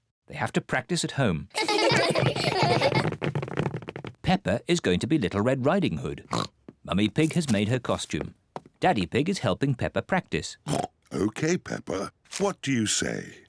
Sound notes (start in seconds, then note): 1.5 children laughing; 6.2 oinks; 10.6 oinks